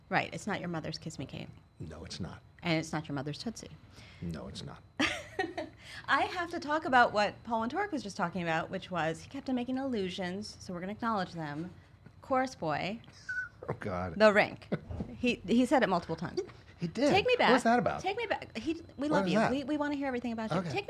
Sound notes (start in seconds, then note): 5.3 laughing; 14.6 laughing